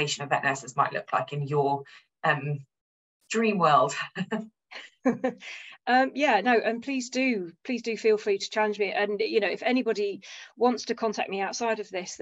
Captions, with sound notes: of vet nurses might look like in your dream world. [laughter] Yes. No, and please do. Please do feel free to challenge me. If anybody wants to contact me outside of this,